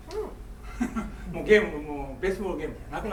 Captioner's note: laughing; speaking in foreign language